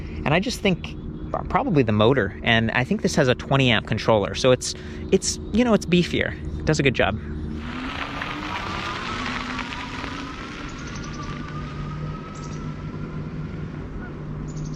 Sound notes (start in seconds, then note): 7.4 motor revving; 11.1 birds chirping